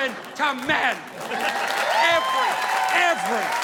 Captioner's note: audience applauding